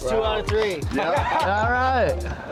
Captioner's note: laughing